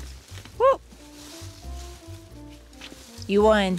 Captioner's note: woman yells